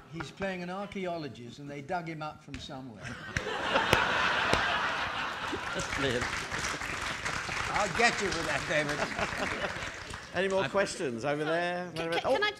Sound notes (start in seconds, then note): 3.0 audience laughing; 6.1 audience applauding